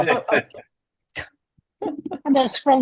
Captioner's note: all laughing